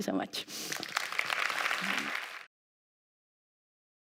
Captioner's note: applause